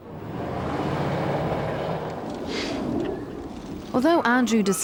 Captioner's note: car engine roaring